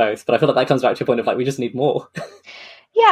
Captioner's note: laughs